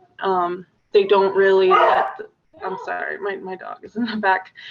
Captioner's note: dog barks